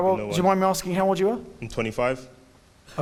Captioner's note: none